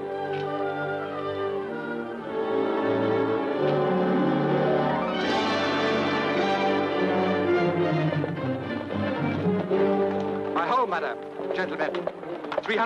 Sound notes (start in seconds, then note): 5.3 dramatic music; 8.3 hooves clopping